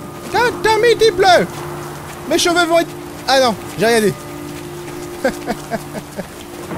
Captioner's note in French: Rires